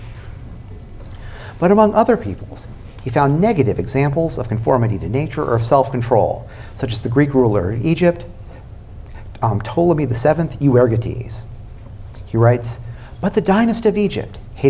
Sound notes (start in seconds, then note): none